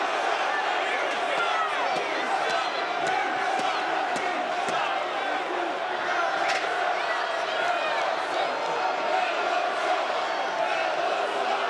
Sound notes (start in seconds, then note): 6.7 chants "Melo sucks"